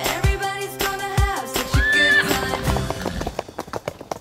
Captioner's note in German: Fröhliche Musik; Wiehern, Hufklappern